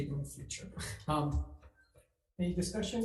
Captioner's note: chuckles